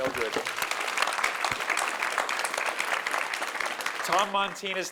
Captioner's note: audience applauding